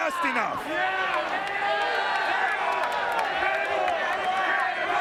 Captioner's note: clapping; crowd exclaiming